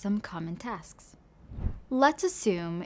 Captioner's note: transition whooshing